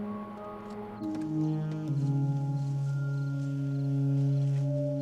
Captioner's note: insects chirping